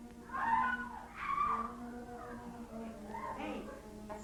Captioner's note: girls screaming